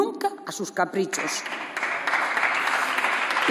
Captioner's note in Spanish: Aplausos